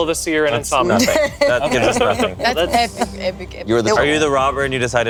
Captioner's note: laughs